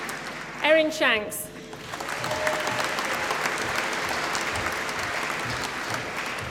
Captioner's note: applause